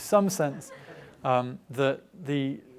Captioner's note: audience laughing